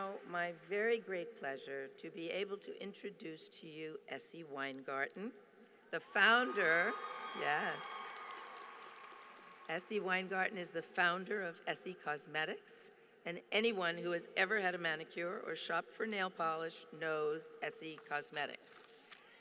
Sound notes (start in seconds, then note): 6.2 applause